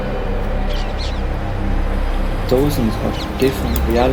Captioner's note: exotic birds chirping